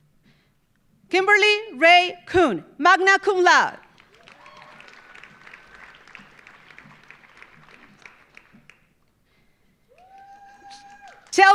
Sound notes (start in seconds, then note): 3.8 audience applauding; 3.9 audience cheering